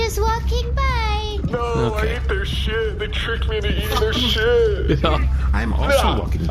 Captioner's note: sobbing